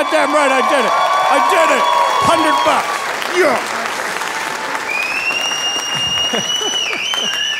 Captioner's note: audience cheering; laughing